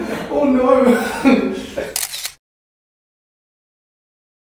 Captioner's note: off-screen: *laughter* Ohhh no!; camera clicks